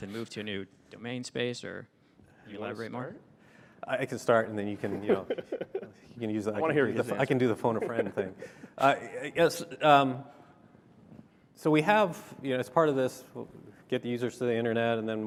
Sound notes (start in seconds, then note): 4.7 laughter